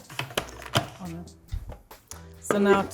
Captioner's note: food processor whirs; lid clicks